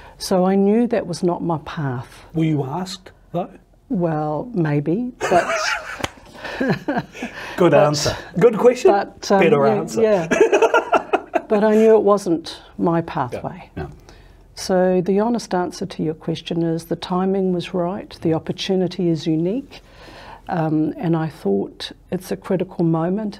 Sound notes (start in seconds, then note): 5.2 both laughing; 10.0 laughs